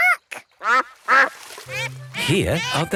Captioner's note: quacks